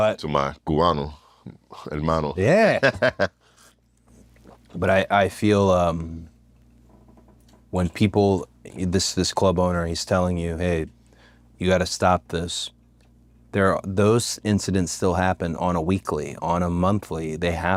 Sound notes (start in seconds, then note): 2.6 laugh